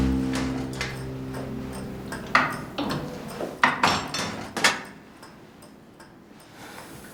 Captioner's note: melancholic music; ticking noise